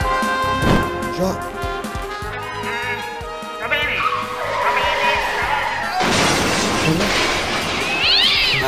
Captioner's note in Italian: stomp; crash; meeooowww!!